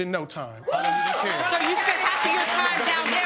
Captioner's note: audience cheering